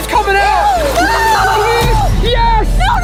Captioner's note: screaming